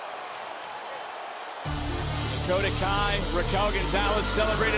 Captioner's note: crowd cheering